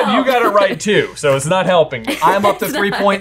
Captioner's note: laughing